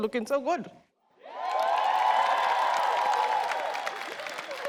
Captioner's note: audience cheers